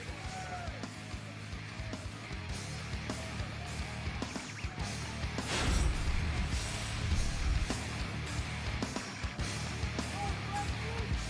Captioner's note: cheers and applause